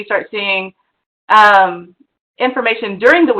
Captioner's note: none